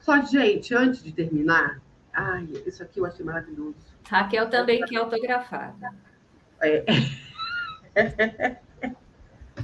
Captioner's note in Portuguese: risadas